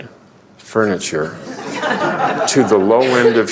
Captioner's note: laughter